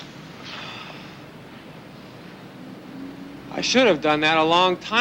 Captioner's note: Casey sighs